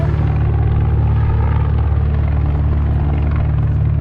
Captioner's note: helicopter whirs